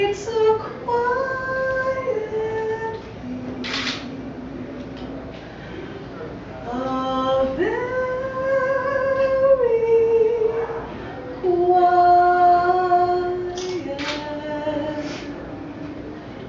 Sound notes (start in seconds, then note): none